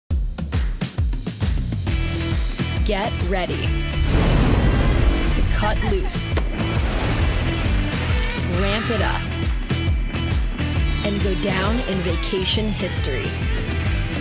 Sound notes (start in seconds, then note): 4.0 sfx: explode; 6.7 sfx: water splash